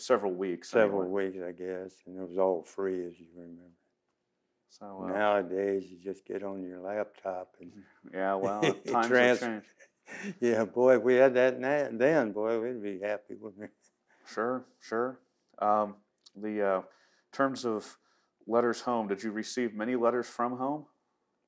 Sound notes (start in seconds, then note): 8.1 laughs